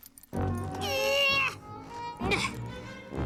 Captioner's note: grunting